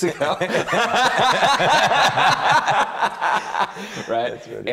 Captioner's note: both laughing